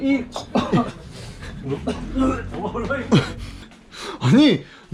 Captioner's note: cough